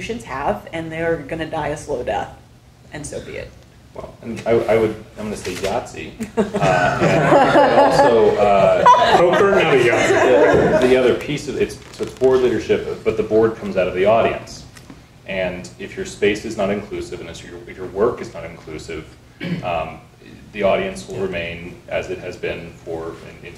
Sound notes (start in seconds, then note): 6.2 people laughing